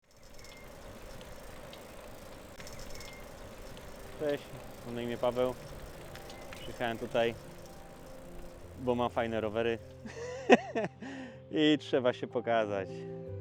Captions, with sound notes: hi, my name is Paweł I came here because I have cool [Laughing] and I have to show myself